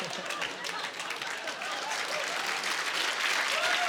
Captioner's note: clapping